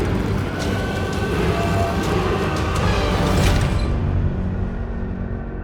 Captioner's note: dramatic music continues; people screaming